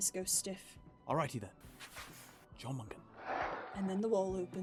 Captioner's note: shuffling; music gets louder; sliding door